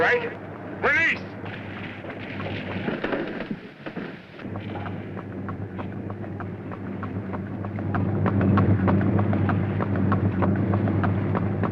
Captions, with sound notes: All right, release. (machinery whirring)